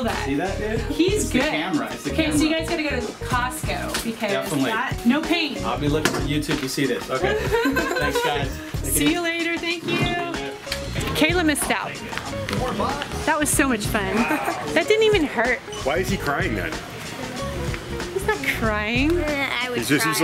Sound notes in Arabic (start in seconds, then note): 7.2 يضحك; 14.4 ضحكات